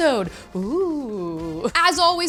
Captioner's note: ghostly moan